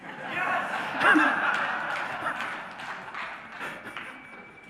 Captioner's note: audience laughs